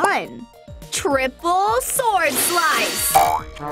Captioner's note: swords slashing; spring bouncing and sad trombone blowing